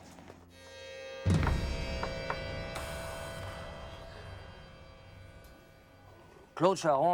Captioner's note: soft tense music; pen taps